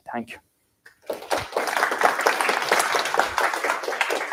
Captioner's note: applause